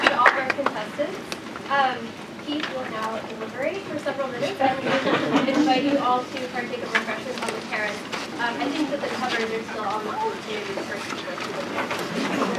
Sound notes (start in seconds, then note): 0.0 applause; 4.3 laugh